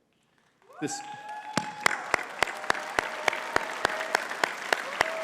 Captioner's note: audience cheering and clapping